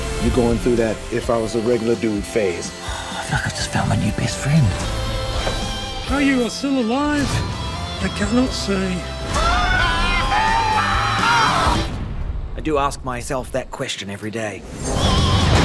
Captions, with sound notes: You're going through that "if I was a regular dude" phase. (SIGHS) If I could just find my new best friend. How you are still alive... I cannot say. (SCREAMING) I do ask myself that question every day.